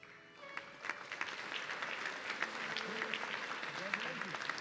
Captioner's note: audience clapping